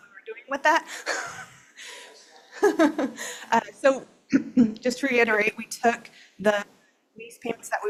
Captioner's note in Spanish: risas